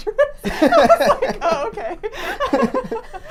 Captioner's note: laughing